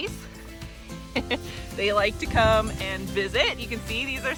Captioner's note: laughing